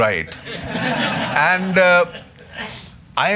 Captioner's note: laughter